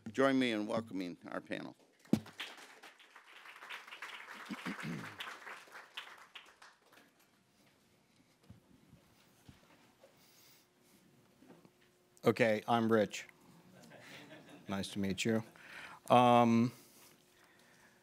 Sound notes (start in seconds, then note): 2.0 audience applauding; 13.7 people laughing